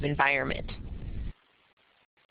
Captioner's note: pause